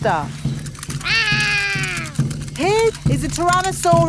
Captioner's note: roaring